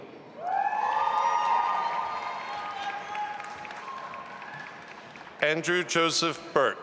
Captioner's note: audience applauding and cheering